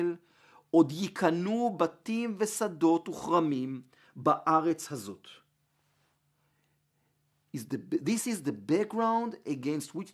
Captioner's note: Hebrew